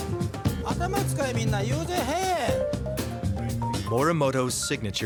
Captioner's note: speaking in foreign language